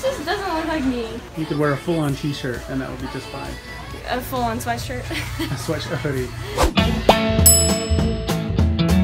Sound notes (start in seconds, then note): 7.0 laughs